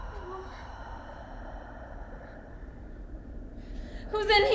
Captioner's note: intense music; Natalie whimpering